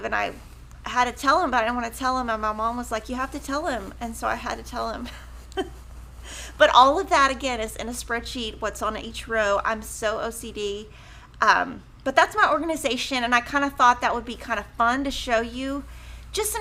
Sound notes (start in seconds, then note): 5.0 chuckling